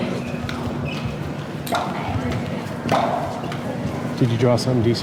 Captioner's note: popping noise